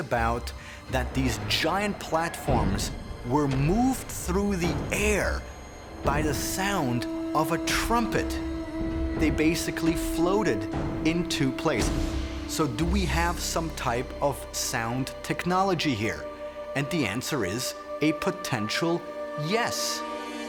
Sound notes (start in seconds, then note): 6.0 horn blowing